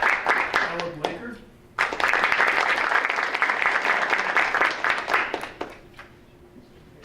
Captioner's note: audience applauding